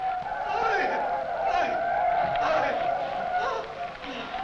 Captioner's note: men shouting